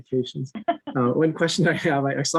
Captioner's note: laughing